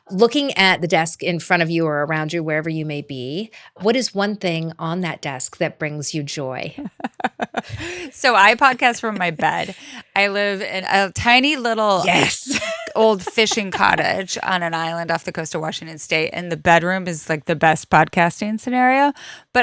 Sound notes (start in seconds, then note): 6.8 presenter laughing